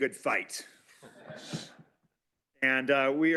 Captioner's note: laughter